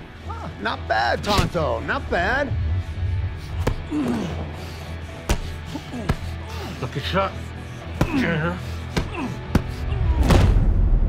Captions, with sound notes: - Huh, not bad, Tonto, not bad. (men grunting) - Lucky shot, champ.